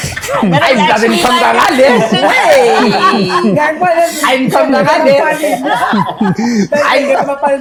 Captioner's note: laughter and indistinct chatter